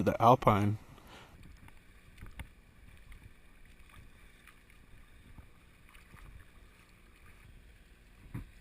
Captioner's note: sounds of walking through water; sounds of river